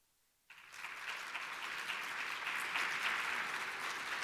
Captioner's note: audience applauding